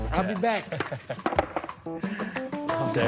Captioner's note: laughs